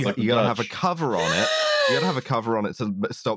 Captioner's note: gasps